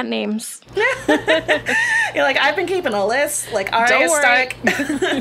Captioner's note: laughs